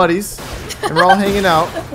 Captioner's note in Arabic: تضحك